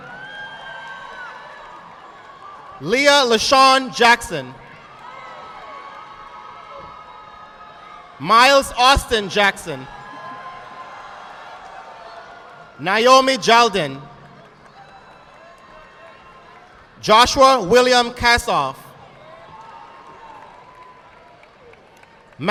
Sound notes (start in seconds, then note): 0.2 audience clapping; 4.8 audience clapping; 10.0 audience applauding; 13.8 audience clapping; 19.1 audience clapping